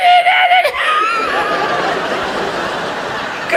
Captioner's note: laughs; audience laughs